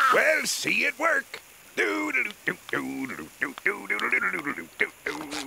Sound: humming; laughing

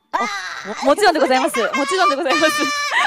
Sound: laughs

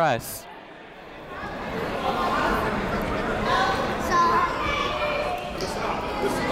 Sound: people talking in the crowd

